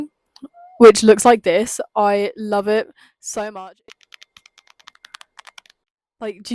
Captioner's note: satisfying clicky phone sounds